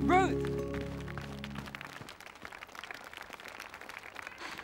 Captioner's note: applause